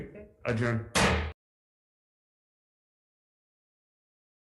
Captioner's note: hammer banging